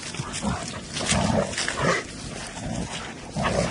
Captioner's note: dog's growling